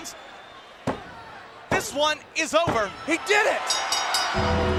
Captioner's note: referee pounding mat; bell ringing